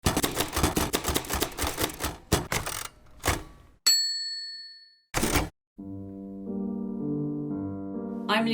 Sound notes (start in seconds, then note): 0.0 typewriter clacking; 3.8 ding; 5.8 piano music